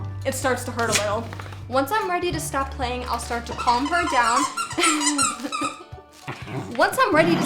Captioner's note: squeaky squeaky!